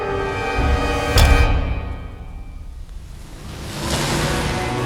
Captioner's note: soft ominous music; soft tense orchestral music; lid clicking; soft tense orchestral music